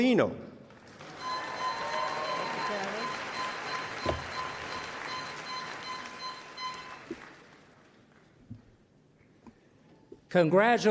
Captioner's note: applause